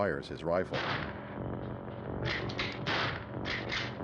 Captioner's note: gun cocks, gunshot